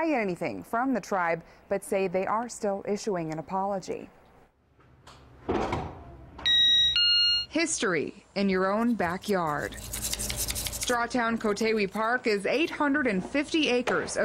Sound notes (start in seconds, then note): 4.2 / : ding dong